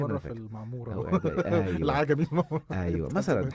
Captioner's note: laughter